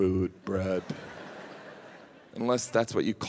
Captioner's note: audience laughs